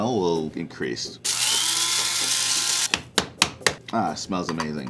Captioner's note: grinder buzzing